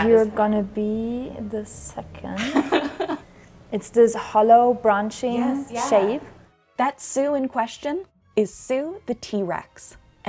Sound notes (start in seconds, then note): 2.4 laughs